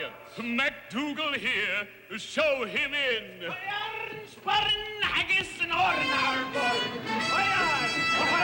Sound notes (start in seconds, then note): 3.5 shouting gibberish in thick Scottish accent; 5.7 ominous music